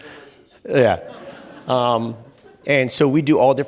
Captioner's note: laughter